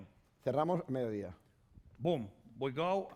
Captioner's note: speaking spanish